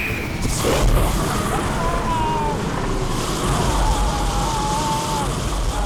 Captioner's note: dragon roars; Matt screams